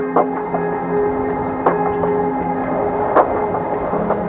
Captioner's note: wind whistling